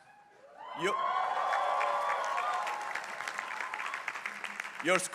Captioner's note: crowd cheering